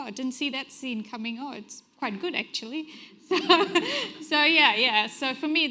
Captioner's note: chuckles